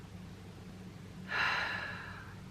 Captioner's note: sigh